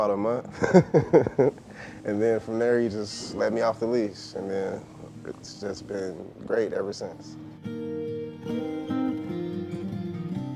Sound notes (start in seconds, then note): 0.5 laughing; 10.3 upbeat music